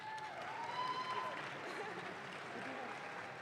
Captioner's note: audience claps